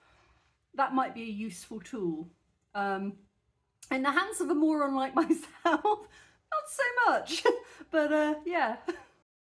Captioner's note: laughing